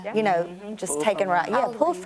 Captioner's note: all voice agreement